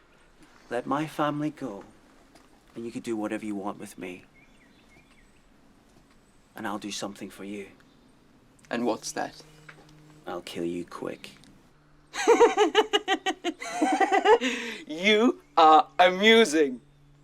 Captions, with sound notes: Let my family go and you can do whatever you want with me. And I'll do something for you. - And what's that? - I'll kill you quick. (Bodil laughing) - You are amusing.